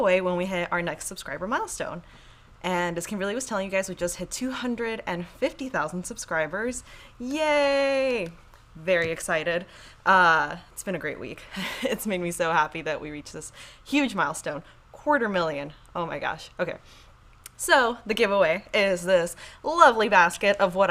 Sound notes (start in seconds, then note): 7.7 claps hands; 11.4 chuckles